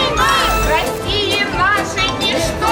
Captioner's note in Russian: Звуки победобесия